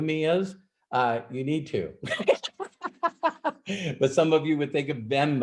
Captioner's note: laughs